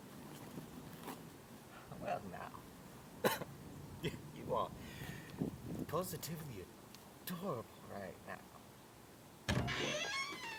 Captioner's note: chuckle